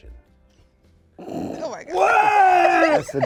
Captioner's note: snorts